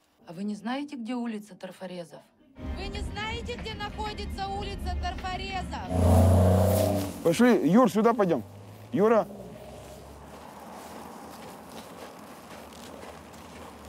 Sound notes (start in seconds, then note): 5.6 engine revving